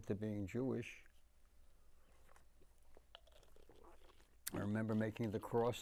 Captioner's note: drinking